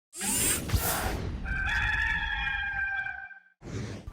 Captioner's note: rooster crowing